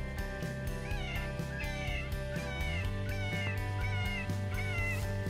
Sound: animal distress call

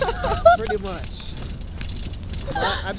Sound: laughter

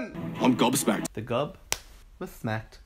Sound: smacking sound

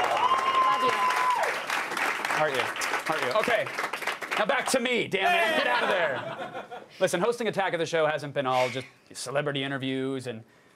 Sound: cheers and applause

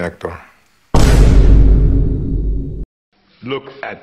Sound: Vine boom

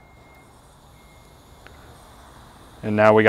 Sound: propane hissing

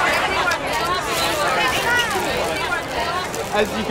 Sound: background chatter

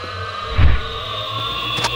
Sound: swoosh

